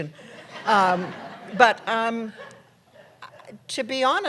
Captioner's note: laughter